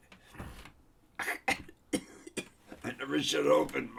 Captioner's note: coughing